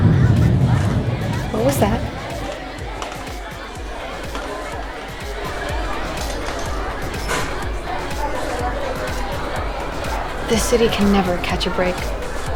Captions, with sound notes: WHAT WAS THAT? [EMERGENCY ALARM SOUNDS IN THE DISTANCE] THIS CITY CAN NEVER CATCH A BREAK.